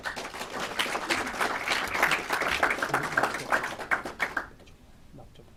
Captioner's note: clapping